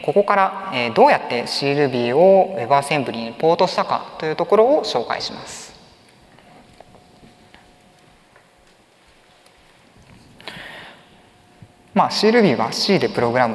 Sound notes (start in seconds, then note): 6.2 silence